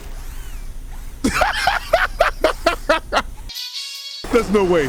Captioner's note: laughing